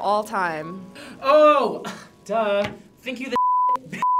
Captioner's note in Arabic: الصافرة